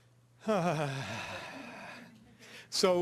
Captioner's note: sighs